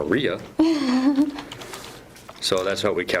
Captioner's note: chuckling